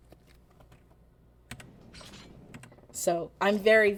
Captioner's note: keyboard clicks